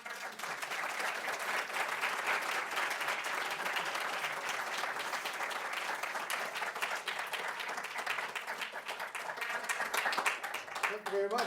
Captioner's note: applause